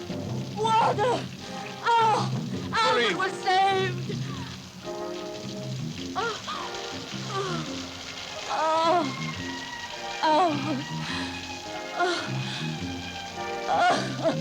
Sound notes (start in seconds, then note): 7.2 Corinne moaning; 11.0 calming orchestral music continues; 14.1 Corinne laughs